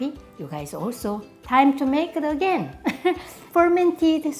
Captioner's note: laughs